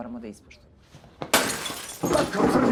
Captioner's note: glass shattering